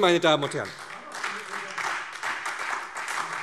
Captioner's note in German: Beifall SPD, Freie Demokraten und DIE LINKE